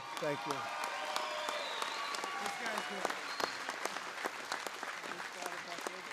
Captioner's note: applause